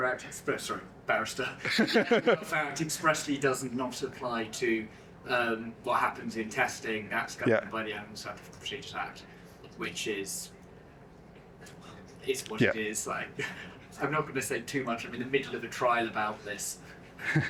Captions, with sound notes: act, sorry, barrister. (laughs) That act expressly does not apply to what happens in testing, that's governed by the Animals Act, the Procedures Act, which is, is what it is. Like, I'm not gonna say too much. I'm in the middle of a trial about this.